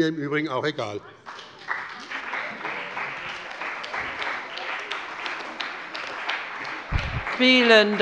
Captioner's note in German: Beifall bei der CDU und dem BÜNDNIS 90/DIE GRÜNEN